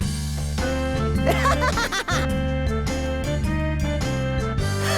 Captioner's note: wheeze